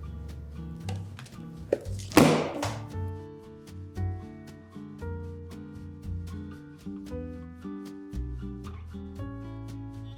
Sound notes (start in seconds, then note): 1.7 book slamming closed; 2.9 relaxing music